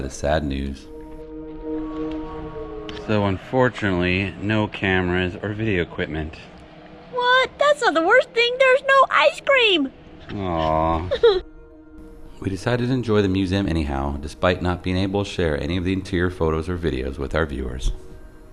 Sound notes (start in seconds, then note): 10.3 fake crying